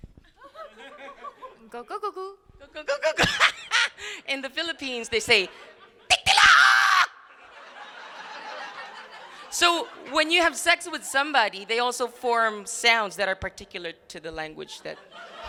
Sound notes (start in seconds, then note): 5.4 laughs; 6.1 screaming; 7.3 crowd laughing; 14.8 crowd laughing